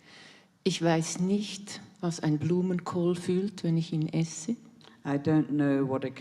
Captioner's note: in German